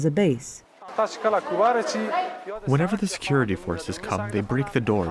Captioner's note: through translator